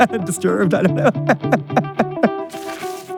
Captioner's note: laughing